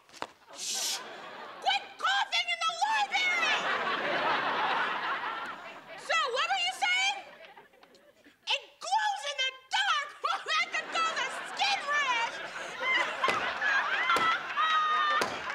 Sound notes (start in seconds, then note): 12.6 laughing out loud